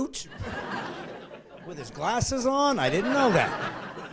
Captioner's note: laughing